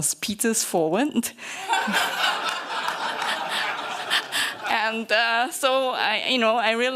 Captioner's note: laughter